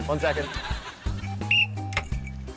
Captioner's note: blows whistle